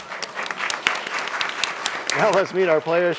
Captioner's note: applause